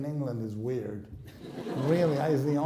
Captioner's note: laughing